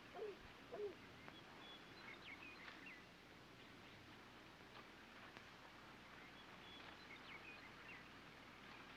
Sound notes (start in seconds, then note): 0.7 birds chirping